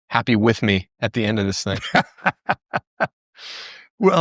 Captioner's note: laughter